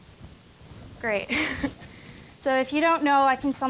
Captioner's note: chuckling